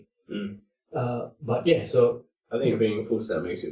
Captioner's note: mmm